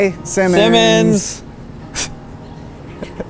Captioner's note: laughter